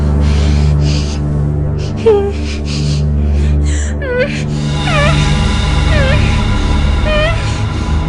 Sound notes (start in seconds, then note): 2.1 whimpering